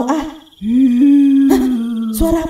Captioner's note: wind sounds